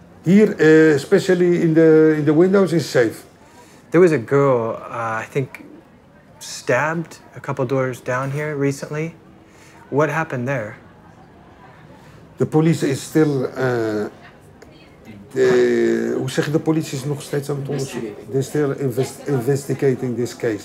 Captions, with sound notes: Here, especially in the windows, it's safe. There was a girl, I think, stabbed a couple doors down here recently. What happened there? The police is still-- [speaking Dutch] They're still investigating this case.